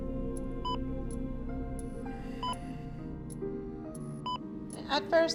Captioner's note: heavy breathing